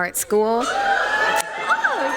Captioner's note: crowd cheers